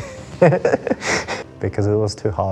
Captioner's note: laughing